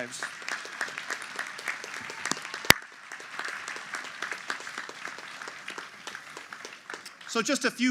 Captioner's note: applause